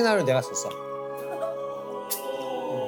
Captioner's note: giggling